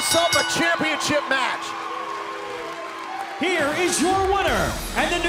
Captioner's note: crowd cheering